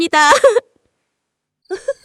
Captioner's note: laughter; laughter